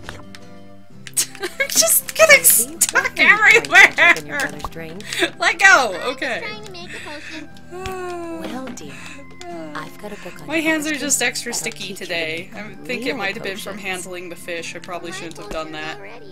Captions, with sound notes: (Laughing) I'm just stuck everywhere-ere-ere! Let go! Okay. (sigh) Ohhh.... My hands are just extra sticky today. I think it might have been from handling the fish. I probably shouldn't have done that.